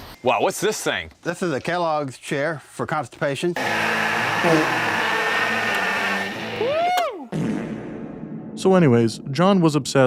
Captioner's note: fart noise